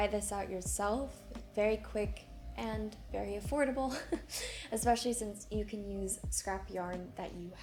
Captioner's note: chuckles